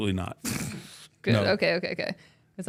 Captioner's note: laughs